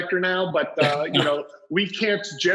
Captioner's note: laughs